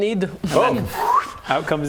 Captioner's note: deft stealing noise